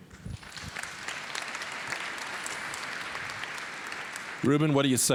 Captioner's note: applause